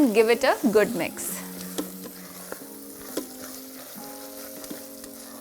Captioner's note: sizzling sound